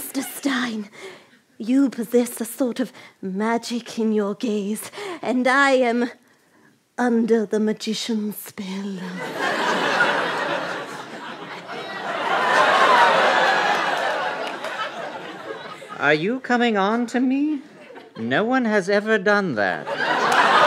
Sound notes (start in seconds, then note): 11.4 crowd groans